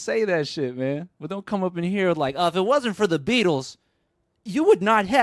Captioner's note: in a mocking tone